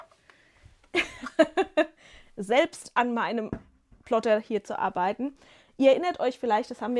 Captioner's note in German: gelächter